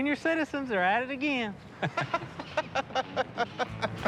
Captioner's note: laughing